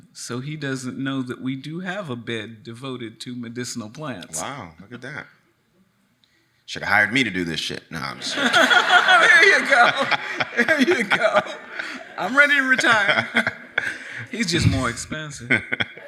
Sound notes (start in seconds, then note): 8.1 audience laughs